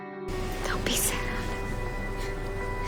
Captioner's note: voiceover